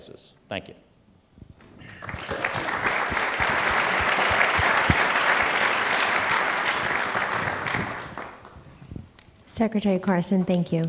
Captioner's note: applause